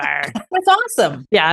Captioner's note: laughs